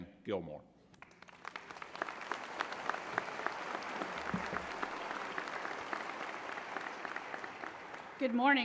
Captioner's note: applause